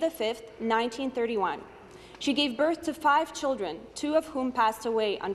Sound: speaking Alternate Language

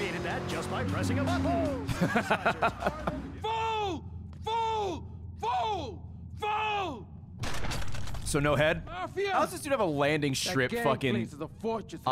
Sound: laughs

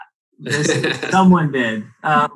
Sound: laughing

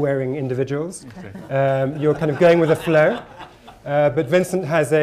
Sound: laughter

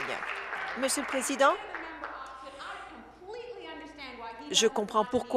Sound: applause

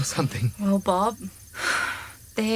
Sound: Mo sighs

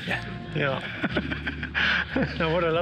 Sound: laughs

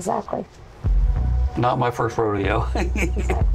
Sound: laughs

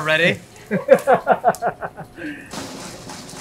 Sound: staff laugh; drum roll music

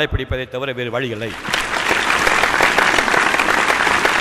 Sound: appreciative applause

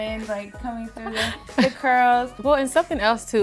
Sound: laughter

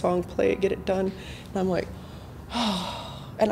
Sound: exhales slightly heavy

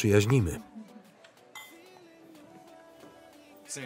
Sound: glasses clinking

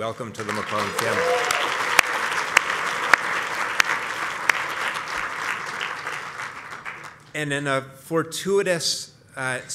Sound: applause

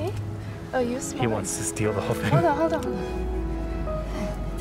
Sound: laughter

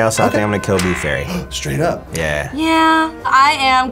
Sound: gasps

